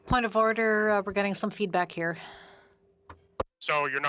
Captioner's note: speaking french